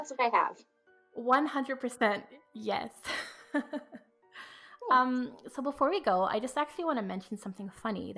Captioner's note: laughs